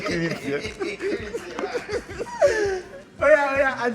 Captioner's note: everyone laughs